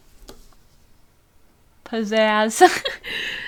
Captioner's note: giggle